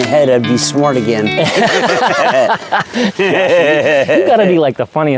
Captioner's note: laughing